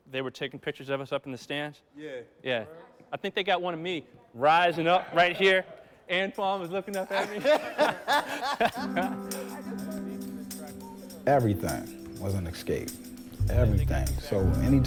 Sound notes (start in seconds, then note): 7.0 laughing